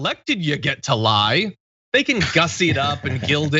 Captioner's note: laugh